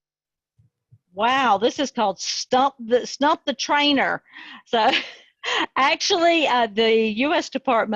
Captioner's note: chuckling